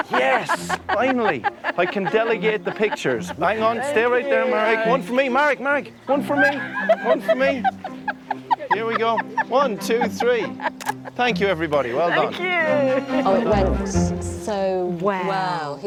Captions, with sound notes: Yes. Finally. I can delegate the pictures. Hang on, stay right there Merrick. One for me. Merrick, Merrick, one for me, one for me. (all laughing) Here we go. One, two, three. (camera shutter clicking) Thank you everybody. Well done. - Thank you. - Oh, it went so well. - Well.